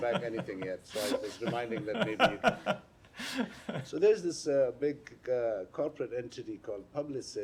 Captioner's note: laughter